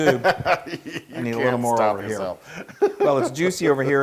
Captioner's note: laugh